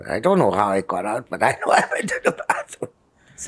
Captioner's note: laughing